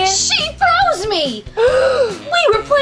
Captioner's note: loud gasp